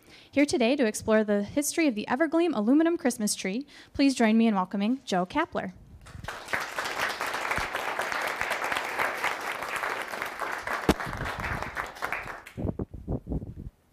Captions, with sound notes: Here today to explore the history of the Evergleam Aluminum Christmas Tree, please join me in welcoming Joe Kapler. [applauding]